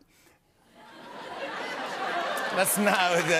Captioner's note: laughter